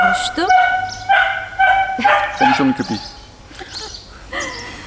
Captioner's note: dog barking